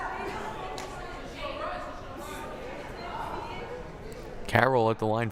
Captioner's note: crowd murmuring